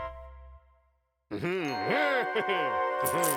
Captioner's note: chuckles